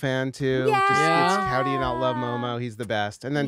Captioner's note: cheers